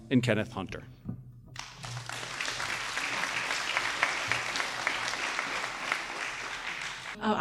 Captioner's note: applause